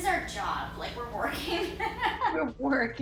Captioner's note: laughing